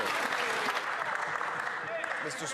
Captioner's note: some Applause